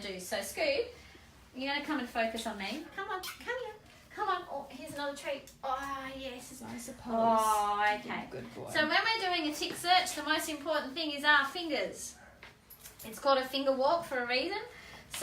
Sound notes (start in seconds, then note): 3.2 kisses